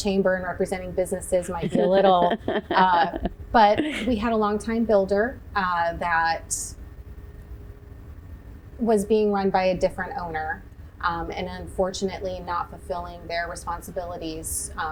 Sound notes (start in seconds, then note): 1.4 chuckles